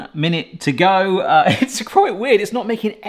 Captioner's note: laughs